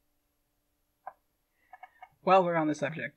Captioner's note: chair creaking